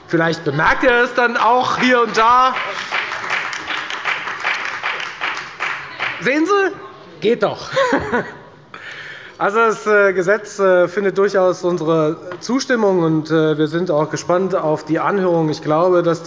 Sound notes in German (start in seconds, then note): 3.5 Beifall bei der FDP